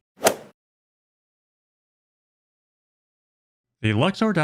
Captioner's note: golf swing sound effect